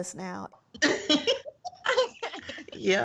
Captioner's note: laughter